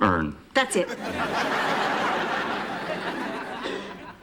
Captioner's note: laughter